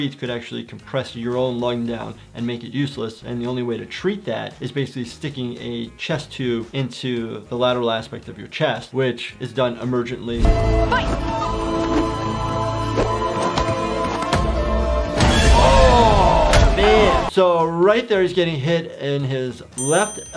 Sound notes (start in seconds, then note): 10.3 intense flute music; 12.2 loud swooshing